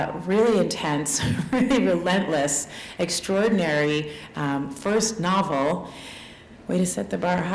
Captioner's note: chuckle